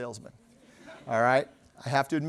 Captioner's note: laughter